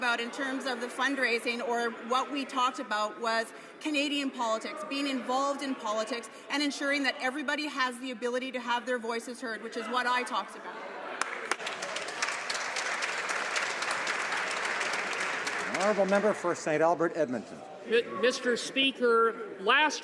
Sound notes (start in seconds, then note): 15.4 some Applause